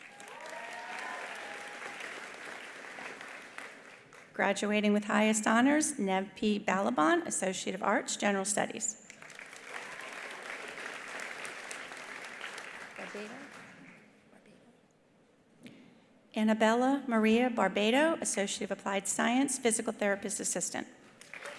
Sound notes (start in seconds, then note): 0.0 attendees cheering; 0.0 attendees applauding; 9.1 attendees applauding; 21.2 attendees applauding; 21.4 attendees cheering